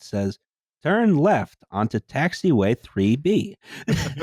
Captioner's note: GPS voice; laughter